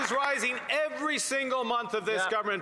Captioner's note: cheering and Applause